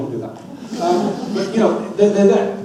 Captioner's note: audience laughs